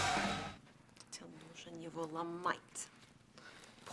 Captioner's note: crowd cheering